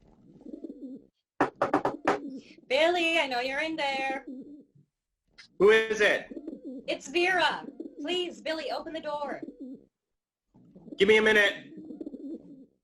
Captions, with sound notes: (More knocks) Billy, I know you're in there. Who is it? It's Vera. Please Billy, open the door. Give me a minute.